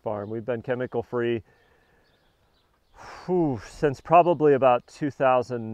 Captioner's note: sighs